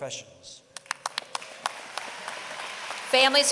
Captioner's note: applause